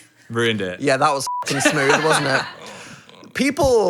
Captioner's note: beep